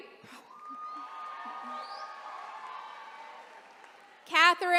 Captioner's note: attendees cheering